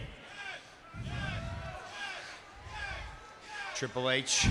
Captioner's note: audience chanting